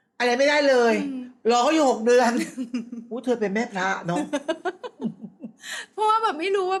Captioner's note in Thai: เสียงหัวเราะ